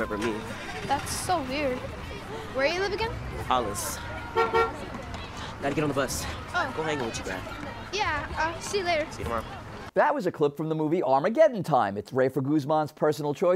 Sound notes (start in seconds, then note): 5.8 bus honks